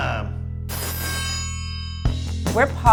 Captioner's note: triangle ringing